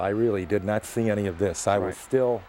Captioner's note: crowd cheering